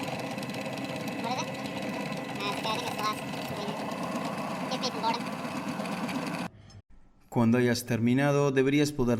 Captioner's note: Se oye el taladro hidr‡ulico